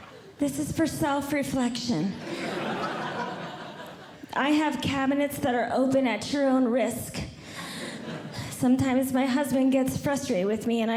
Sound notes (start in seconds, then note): 2.1 audience Laughing